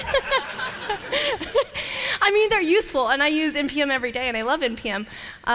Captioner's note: laughter